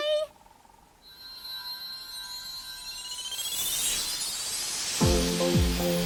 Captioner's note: magic shimmering sounds